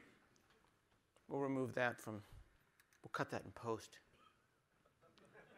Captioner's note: laughter